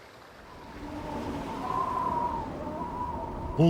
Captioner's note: howling wind